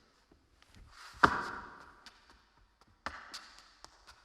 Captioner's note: shoes clacking